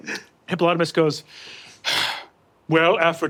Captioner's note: sighs